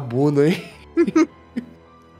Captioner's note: laughter